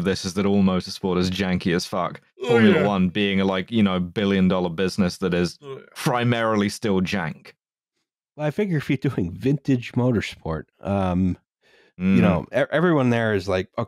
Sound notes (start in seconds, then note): 2.4 yawning